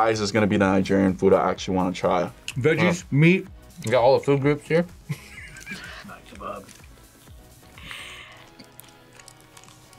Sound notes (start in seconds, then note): 5.1 laughs